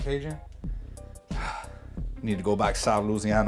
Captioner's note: sighs